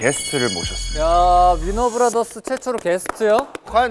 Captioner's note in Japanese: パチパチ